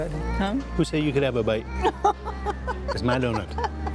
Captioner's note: laughs